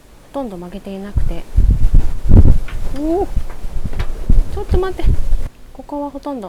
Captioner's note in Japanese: 強風